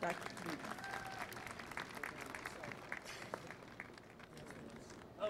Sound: applause

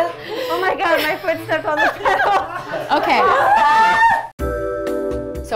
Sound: laughter

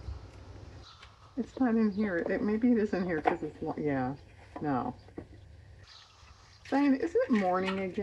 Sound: laughs

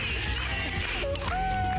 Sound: applause

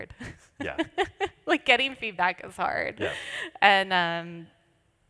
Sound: laughs

